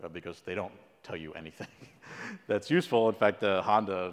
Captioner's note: laugh